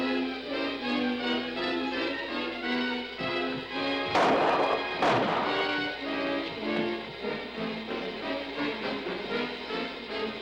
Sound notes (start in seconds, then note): 4.0 gun firing